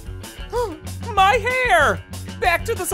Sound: gasping

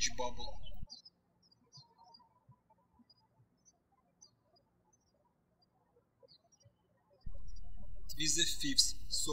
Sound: birds chirping

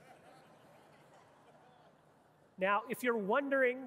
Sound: audience laughing

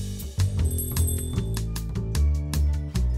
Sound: small bell rings

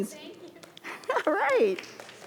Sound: crowd clapping

